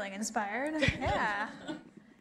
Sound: laughter

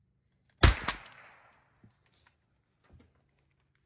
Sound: gun bangs

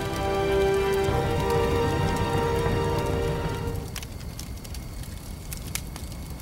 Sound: soft poignant music; fire crackling

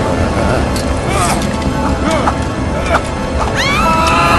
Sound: fearful Grunting

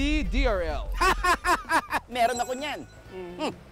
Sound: laughing

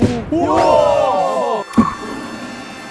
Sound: cheering crowd

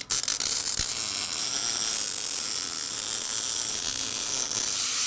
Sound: welding torch buzzing

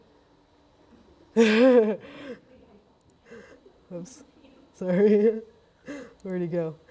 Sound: laughing

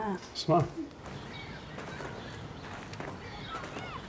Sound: speaking foreign language; children playing in distance

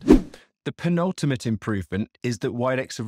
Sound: swooping transition

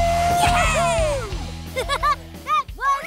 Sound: laughing

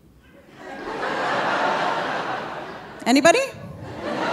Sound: audience laughing

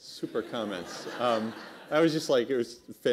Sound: laughter

